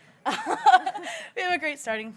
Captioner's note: both chuckling